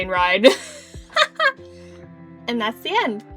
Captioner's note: giggles